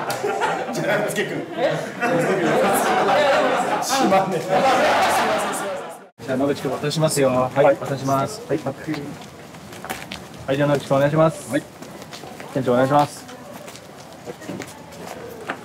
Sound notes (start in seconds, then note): 0.0 laughter